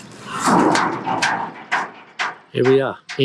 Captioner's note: door clangs open